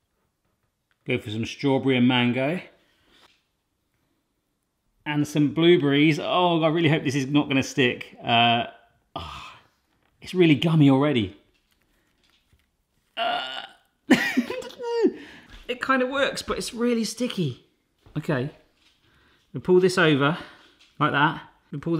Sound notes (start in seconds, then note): 9.1 sighs; 14.1 laughs